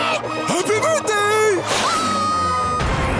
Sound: screaming

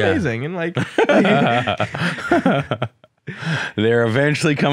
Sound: laughs

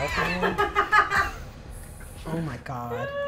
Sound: laughs

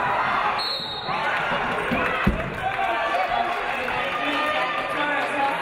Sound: referee blows whistle

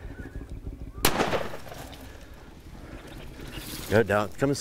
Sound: gunshot

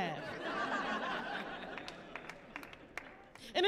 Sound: laughing

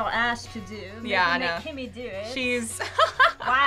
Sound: laughing

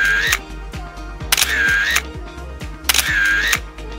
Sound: camera clicks

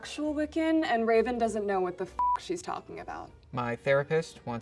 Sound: beep

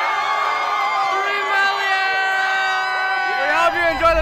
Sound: crowd cheers

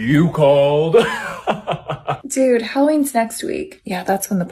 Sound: IDK Evil Laugh IG?

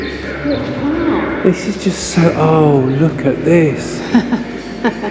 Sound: laughter

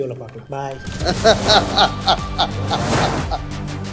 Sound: laughter

